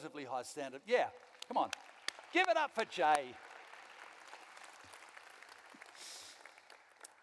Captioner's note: applause from the audience; applause